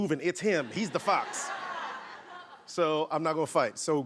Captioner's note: laughing